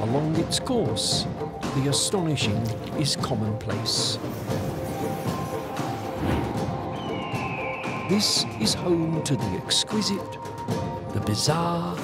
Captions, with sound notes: Along its course, the astonishing is commonplace. [birds squawk] This is home to the exquisite, the bizarre...